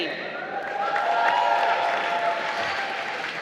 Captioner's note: applause